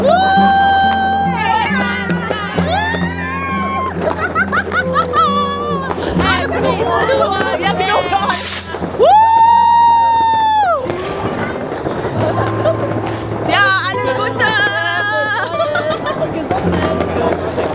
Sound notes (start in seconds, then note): 5.6 laugh; 7.6 speaking German; 14.9 laugh; 15.7 speaking German